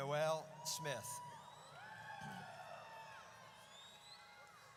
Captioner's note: audience cheers